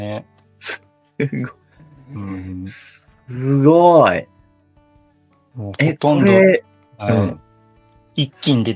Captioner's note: laughs